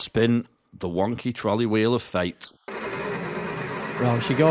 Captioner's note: wheel spinning